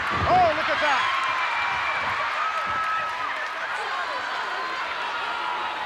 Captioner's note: audience cheering